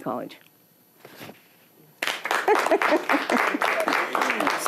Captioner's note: applause